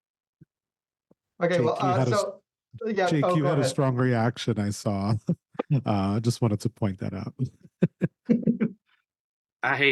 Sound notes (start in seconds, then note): 4.9 chuckles; 7.4 all chuckling